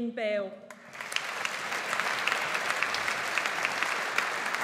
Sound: audience applauds

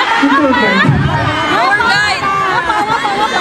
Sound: haha

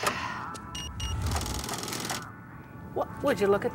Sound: beeping

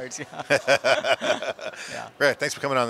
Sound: both laugh

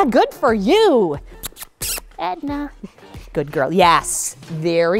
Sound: kissing sounds

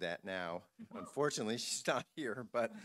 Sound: laughing

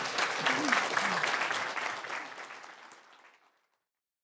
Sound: applause

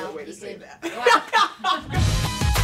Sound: laughter; electronic music plays

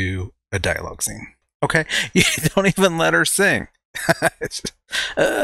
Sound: chuckles and Groans

